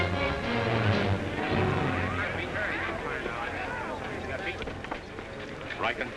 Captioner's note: dramatic music; crowd murmuring excitedly